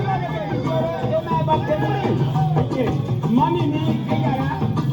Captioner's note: crowd talking